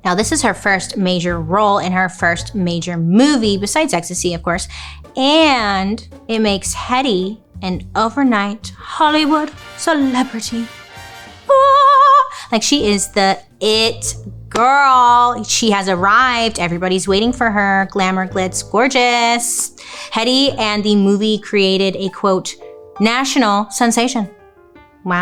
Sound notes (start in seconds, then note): 11.5 vocalizing